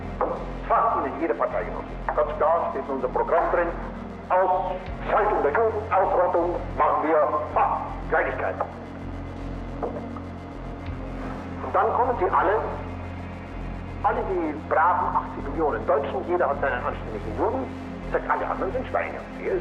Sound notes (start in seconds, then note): 0.7 Himmler continues speaking German